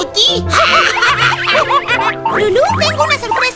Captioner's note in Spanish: Risas y sonidos de mono